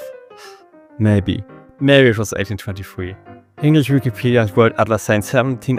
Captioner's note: sigh